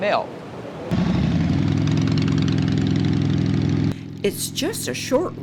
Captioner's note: bike purring